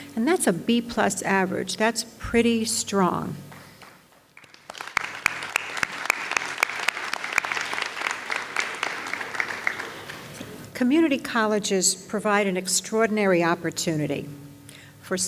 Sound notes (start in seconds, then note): 3.5 audience applauds